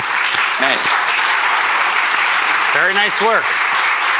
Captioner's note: applause